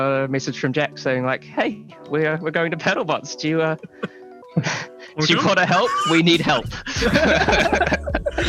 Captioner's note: laughs